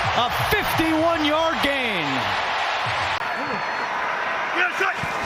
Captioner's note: applause